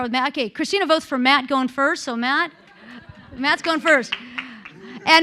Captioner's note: applause